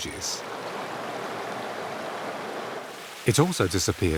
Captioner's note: water roars